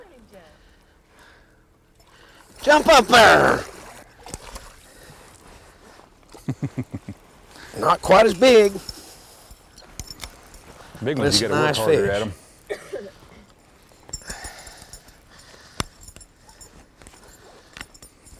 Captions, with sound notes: jump up there! [Splash] [small laugh] that quite as big this is a nice fish